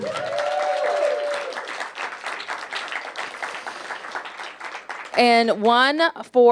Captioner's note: cheers and applause